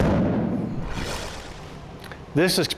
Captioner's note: explosion